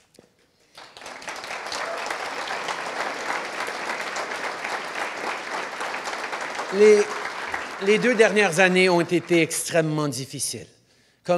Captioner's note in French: Applaudissements